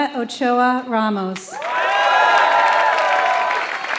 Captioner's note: applause